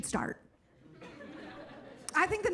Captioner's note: audience laughing